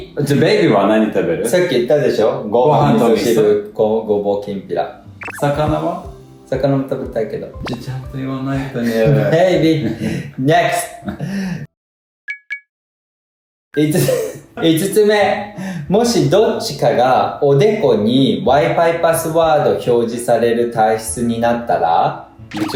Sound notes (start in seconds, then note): 9.6 laughs